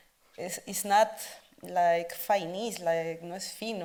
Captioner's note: speaks Spanish